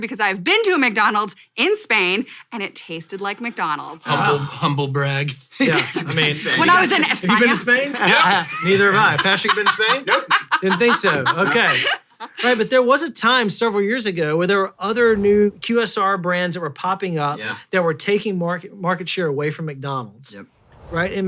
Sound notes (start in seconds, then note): 6.4 loudly laughing